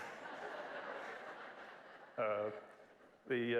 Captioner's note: laugh